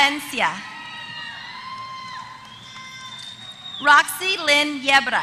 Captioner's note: applause